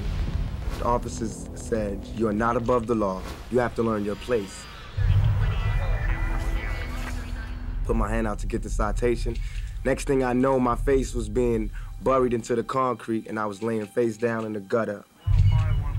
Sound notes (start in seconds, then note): 4.7 police radio chatter